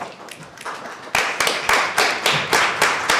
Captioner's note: applause